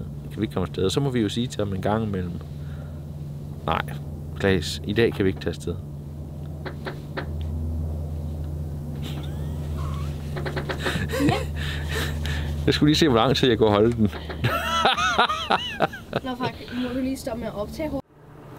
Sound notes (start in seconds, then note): 9.0 laughs at the ironic statement; 14.4 bursts out laughing